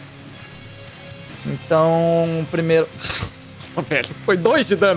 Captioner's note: laugh